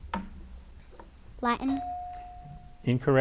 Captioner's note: bell dings